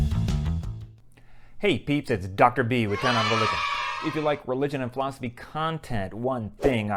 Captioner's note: kids cheering